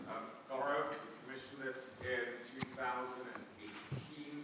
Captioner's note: faintly speaking